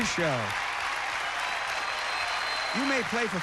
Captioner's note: cheers and applause